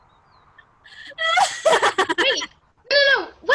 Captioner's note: Puck Laughs